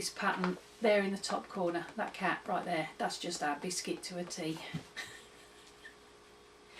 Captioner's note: giggles